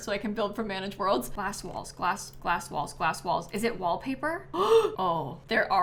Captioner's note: gasps